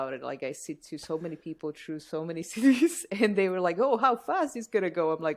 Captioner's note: laughter